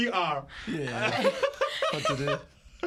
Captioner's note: laughter